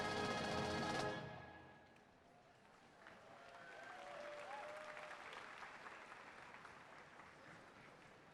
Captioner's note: applause